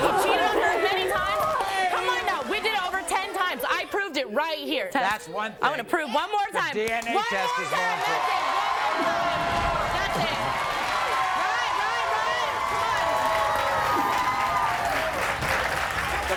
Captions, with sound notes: - He cheated on her many times, come on now. We did it over ten times, I proved it right here. - That's one thing. - I'm gonna prove one more time. - DNA test results. - One more time, that's it, one more time. That's it. (audience cheers) Right, right, right, come on.